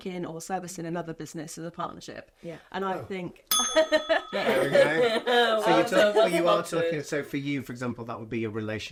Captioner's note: ding